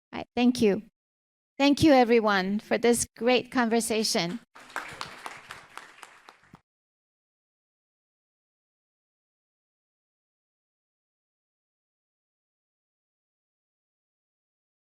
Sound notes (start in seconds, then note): 4.2 group applauding